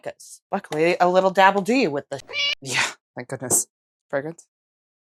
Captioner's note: meow